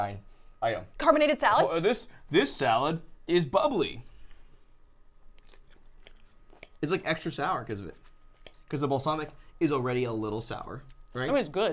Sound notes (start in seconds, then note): 5.3 crunching